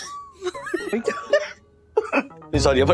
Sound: laughs

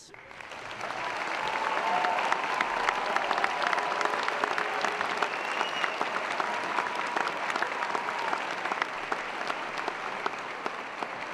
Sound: applause

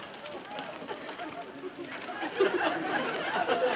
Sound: audience laughs

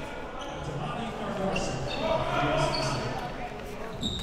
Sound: coaches yelling

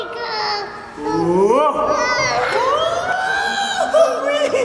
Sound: laughs

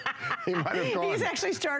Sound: laughter

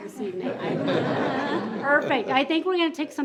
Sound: group laughs

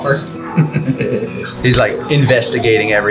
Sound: laughs

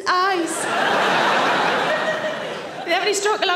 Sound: audience laughing

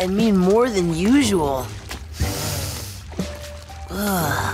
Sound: inhaling deeply

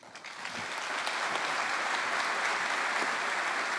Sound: applause

